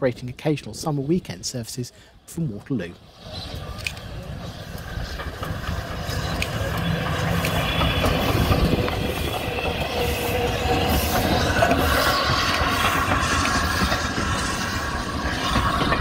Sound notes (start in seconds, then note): 3.3 sound of Steam Train Passing